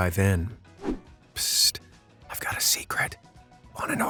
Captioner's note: whisper